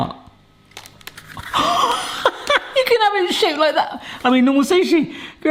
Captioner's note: laughs